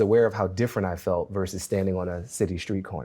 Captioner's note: none